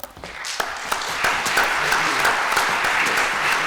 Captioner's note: applause